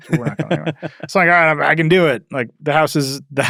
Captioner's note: laughs